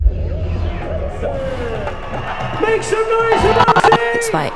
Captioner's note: crowd noise